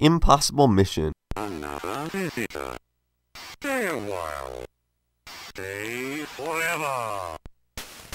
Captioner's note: synthesised Voice